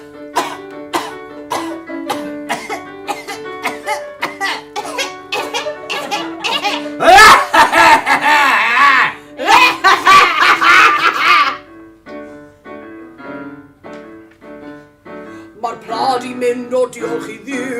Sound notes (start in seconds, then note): 0.9 spit; 2.3 spit; 3.0 coughing